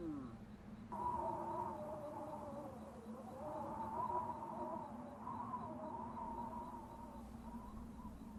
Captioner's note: sound of blowing wind